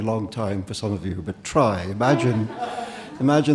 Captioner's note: audience laughing